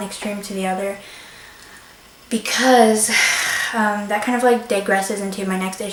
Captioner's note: sighs